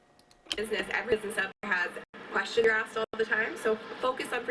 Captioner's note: choppy recording plays